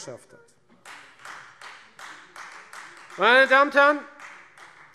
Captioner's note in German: Beifall Freie Demokraten